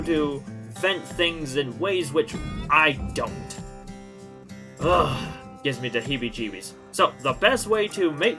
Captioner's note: exasperated sigh